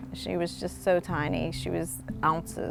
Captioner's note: none